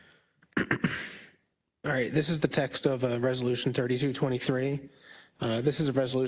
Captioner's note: cough